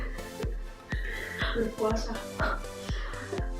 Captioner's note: laugh